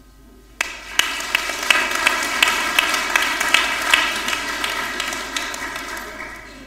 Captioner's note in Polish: oklaski